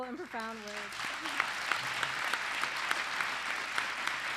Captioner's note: applause